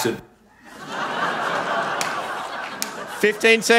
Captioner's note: laughter